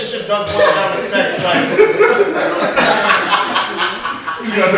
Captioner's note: laughter